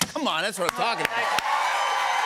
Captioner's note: cheers and applause